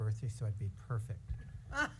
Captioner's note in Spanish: risas